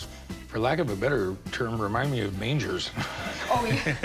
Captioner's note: laughs